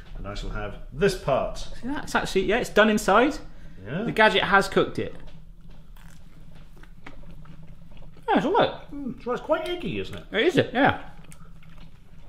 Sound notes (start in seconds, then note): 5.0 both chew